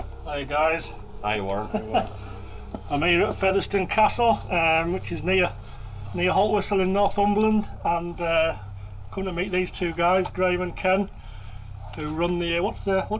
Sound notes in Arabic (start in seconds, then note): 1.4 يضحك